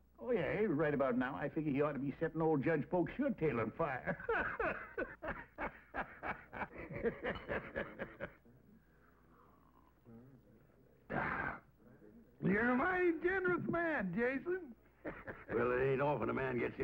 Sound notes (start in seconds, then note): 3.9 laughing; 11.1 sighs